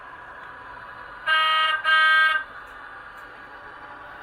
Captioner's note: horn beeps